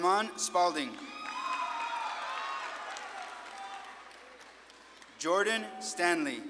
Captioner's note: audience claps and cheers